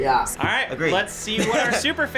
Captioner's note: laughs